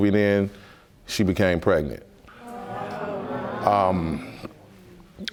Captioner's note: audience murmuring